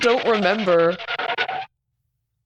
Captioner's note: tires skidding